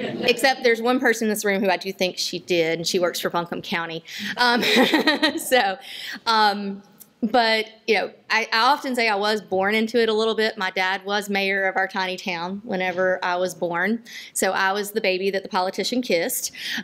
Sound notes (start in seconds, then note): 4.4 laughter